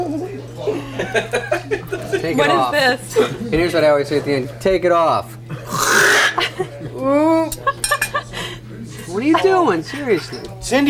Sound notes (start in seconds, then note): 5.7 Chris mimics sound of fabric ripping; 8.9 laughs